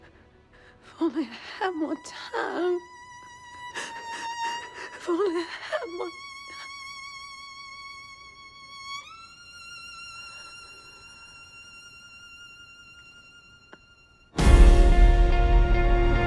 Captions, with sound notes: If only I had more time. If only I had more ti... (EXHALES) (DRAMATIC MUSIC SWELLS)